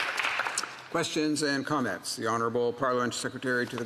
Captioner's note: some Applause